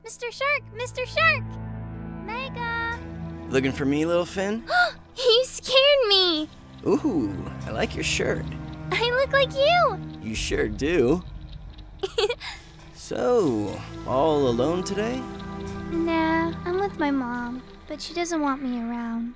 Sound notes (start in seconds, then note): 4.7 gasp; 12.0 giggles